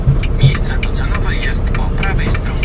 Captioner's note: GPS talking